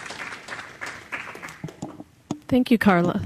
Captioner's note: applause